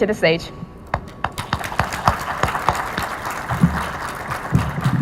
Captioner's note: audience applauding